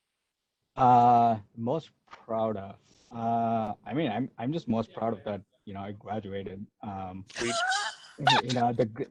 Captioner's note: laughs